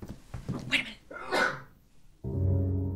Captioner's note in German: niesen; beunruhigende Musik